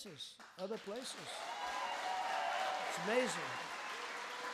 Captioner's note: applause